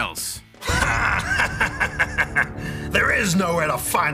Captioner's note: sniggers